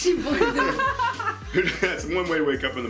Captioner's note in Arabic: ضحك